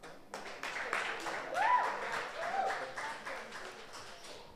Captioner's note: audience applauds